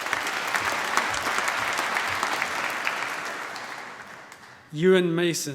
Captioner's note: applause